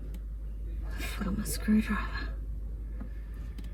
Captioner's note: with quiet exasperation